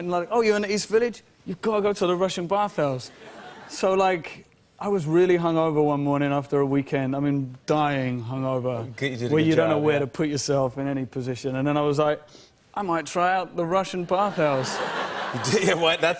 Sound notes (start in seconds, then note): 14.2 laughter